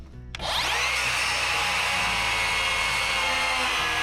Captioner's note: saw buzzing